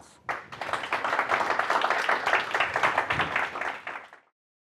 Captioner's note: applause